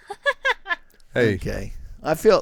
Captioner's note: laughing